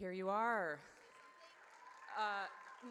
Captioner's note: audience cheers